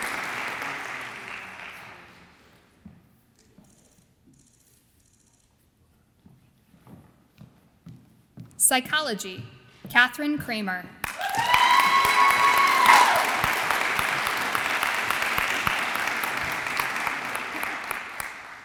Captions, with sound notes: Psychology, Katherine Kremer. (audience applauds and cheers)